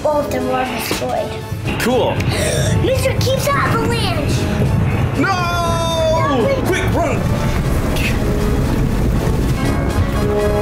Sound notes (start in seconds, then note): 2.3 gasp; 5.1 yells